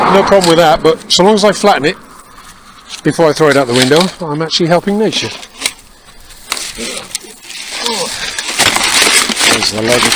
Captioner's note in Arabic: سخرية